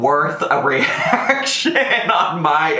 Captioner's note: laughs